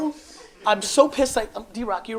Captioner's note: audience laughs